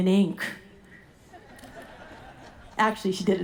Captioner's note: audience laughing